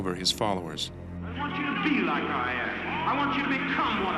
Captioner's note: voiceover